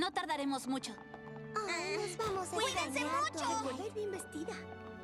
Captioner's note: parting chatter